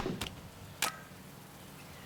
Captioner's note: cracking; snapping